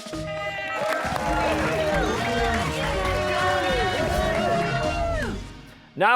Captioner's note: cheers and applause